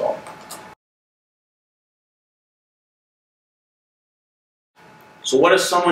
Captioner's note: silence